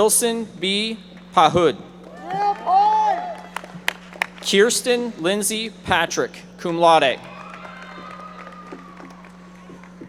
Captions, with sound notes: Wilson B. Pahud. (audience member shouting) Kirsten Lindsay Patrick, cum laude.